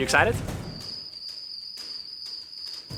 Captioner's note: crickets chirping